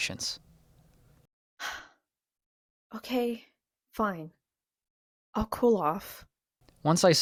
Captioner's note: sigh